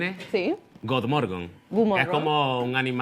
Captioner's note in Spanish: lo pronuncia en sueco